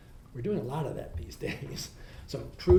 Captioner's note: laughs